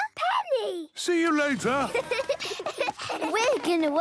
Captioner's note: laughter